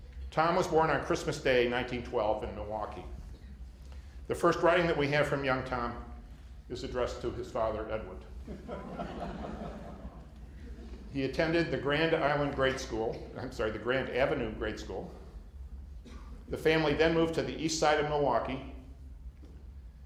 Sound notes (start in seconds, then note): 8.4 laughter